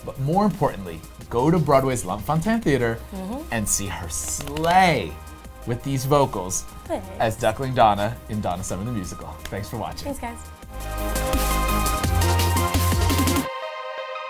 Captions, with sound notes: But more importantly, go to Broadway's Lunt-Fontanne Theater, and see her slay (clapping) with these vocals. Thanks As Duckling Donna in "Donna Summer The Musical." Thanks for watching. Thanks guys. (electronic music)